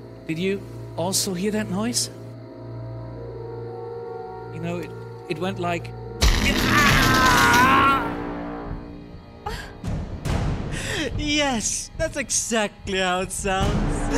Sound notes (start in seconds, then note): 6.2 brzzzzt